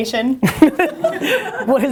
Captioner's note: laughs